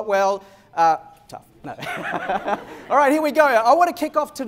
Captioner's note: laughter